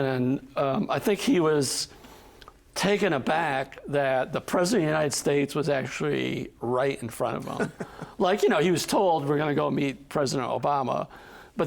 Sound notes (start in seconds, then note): 7.4 chuckling